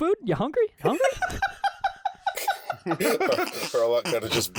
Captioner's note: high-pitched giggling